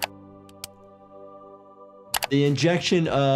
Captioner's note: soft music; injector clicks